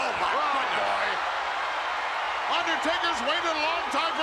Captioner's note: audience cheers